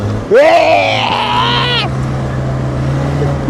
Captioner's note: yelling